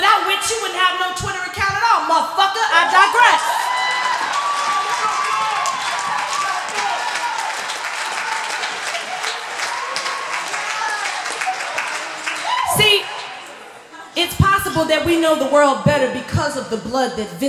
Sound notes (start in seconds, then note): 3.7 laughter, applause